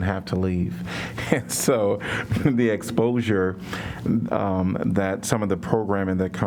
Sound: laughter

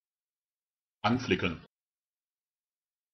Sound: fast Pronunciation

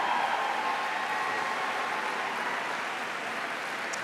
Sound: applause

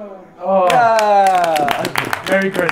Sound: Sidemen clapping

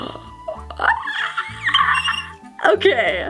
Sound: excitedly screaming

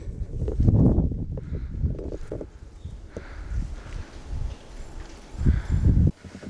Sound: there is only windy sound

